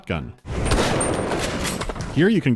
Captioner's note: blam